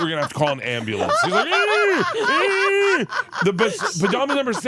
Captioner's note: Bert wheezing